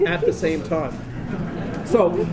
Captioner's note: laughter